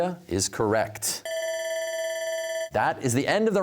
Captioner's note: bell ringing